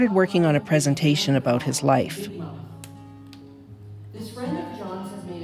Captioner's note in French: elle parle en anglais, - indistinct